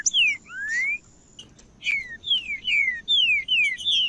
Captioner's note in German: trinca ferro cantando